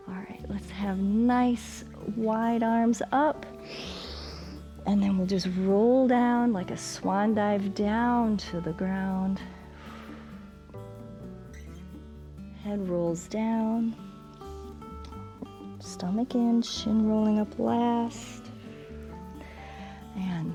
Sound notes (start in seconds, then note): 3.6 inhales; 9.5 exhales